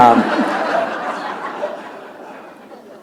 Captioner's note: laughter